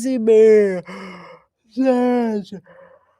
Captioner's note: sighing